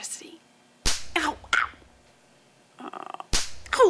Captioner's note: electric spark